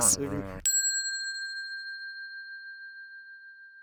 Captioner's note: bell dinging